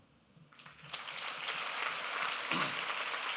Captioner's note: applause